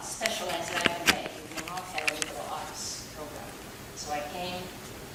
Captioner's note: static drowning out speaker